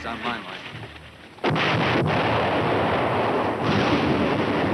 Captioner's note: bomb exploding